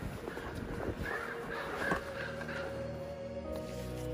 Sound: raven "Laugh" Sound

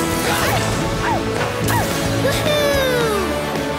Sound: barking

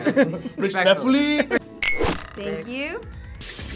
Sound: bottles clinking

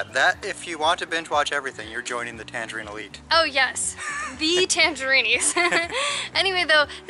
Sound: laughter

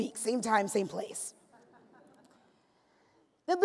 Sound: laughs

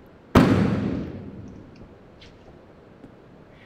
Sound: trunk slams

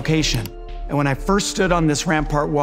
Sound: computer mouse clicking

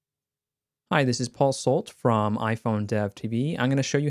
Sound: voiceover

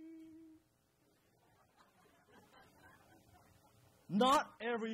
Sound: crowd laughs

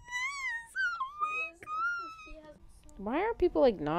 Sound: squealing

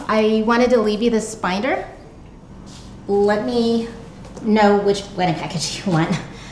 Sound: none

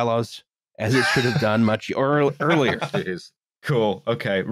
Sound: laughter

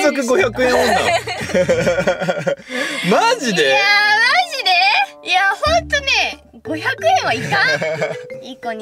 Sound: laughter

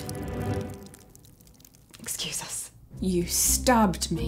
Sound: blood dripping

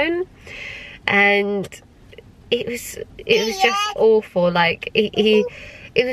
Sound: baby coos

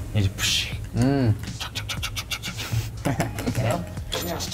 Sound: making sounds with the mukbang

